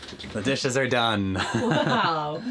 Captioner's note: chuckles